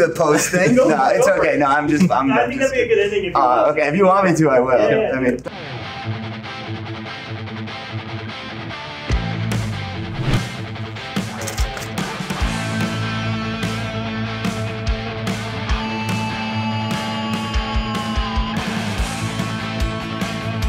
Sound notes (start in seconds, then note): 0.2 men laughing; 6.5 rock music; 12.1 money rustling; 17.3 rock music continues